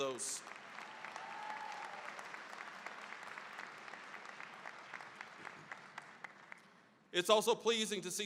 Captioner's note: cheering, applause